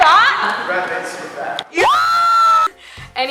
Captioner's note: cheering